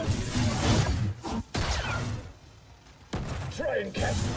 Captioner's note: gunshots